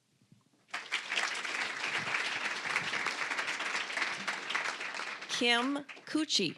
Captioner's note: applause